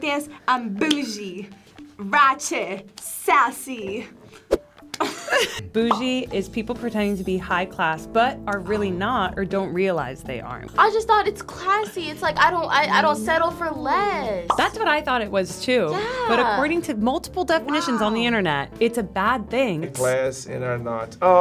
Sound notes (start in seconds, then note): 0.8 claps; 5.0 chuckles; 5.8 bubbles pop; 14.4 bubble pops